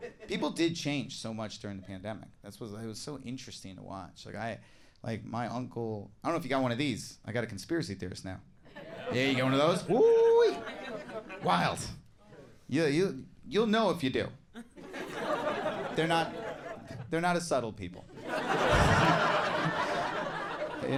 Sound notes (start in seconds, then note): 14.6 crowd laughs